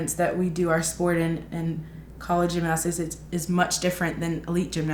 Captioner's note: none